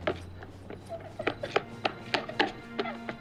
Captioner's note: crying